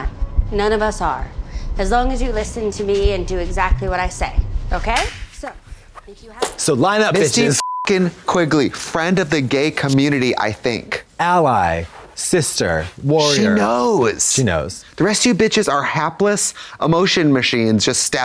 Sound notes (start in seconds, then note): 5.0 Trixie claps; 7.4 beep